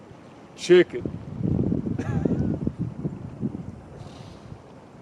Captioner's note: laughs